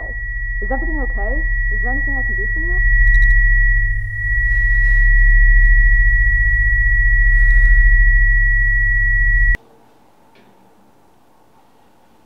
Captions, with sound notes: Is everything okay? Is there anything I can do for you? *HIGH PITCHED NOISE*